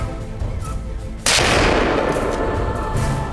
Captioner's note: gunshot